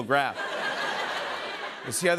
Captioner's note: laughter